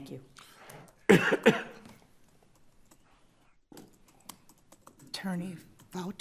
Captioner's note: one of the Justices coughs